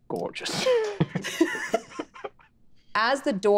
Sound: group laughing

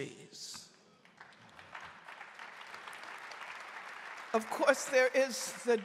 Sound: audience applauding

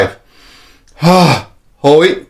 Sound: inhale and exhales

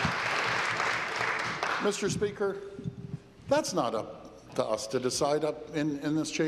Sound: applause

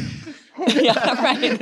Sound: all laugh

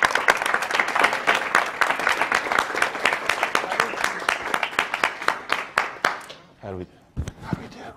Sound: applause

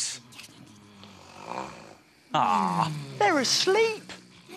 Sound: all snore

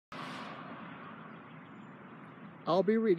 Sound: vehicles driving down the road

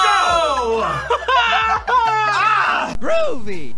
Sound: both laugh

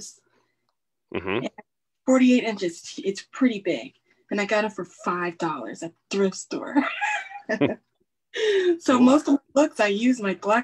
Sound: laughs

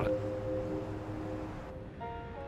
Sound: city sounds; soft music

